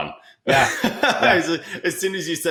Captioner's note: laughs